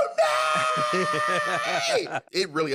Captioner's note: laughs